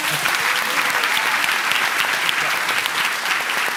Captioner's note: applause